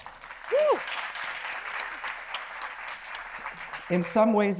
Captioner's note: attendees applauding